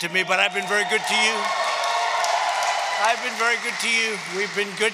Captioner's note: applause